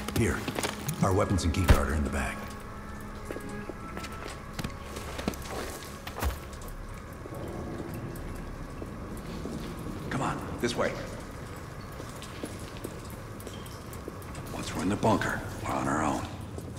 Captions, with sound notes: Here, our weapons and keycard are in the bag. Come on, this way. (footsteps) Once we're in the bunker, we're on our own.